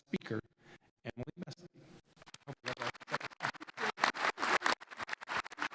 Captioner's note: audience applauding